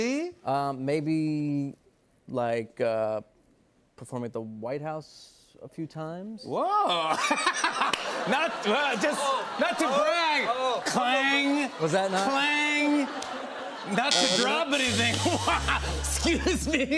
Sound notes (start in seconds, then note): 6.9 laughs